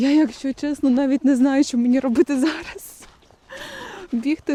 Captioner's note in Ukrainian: хекання